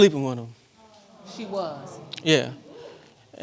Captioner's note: audience gasps